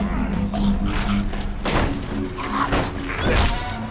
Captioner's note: door slams